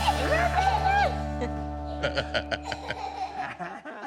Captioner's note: giggling